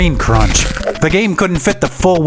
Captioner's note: crunching sound effect